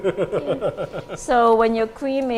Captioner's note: laughs